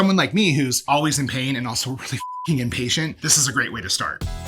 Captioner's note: beep